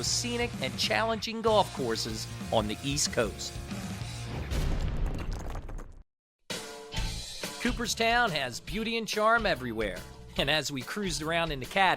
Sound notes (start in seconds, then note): 4.2 logo bangs; 6.5 cheerful music